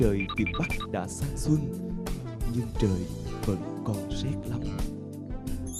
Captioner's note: with a warm voice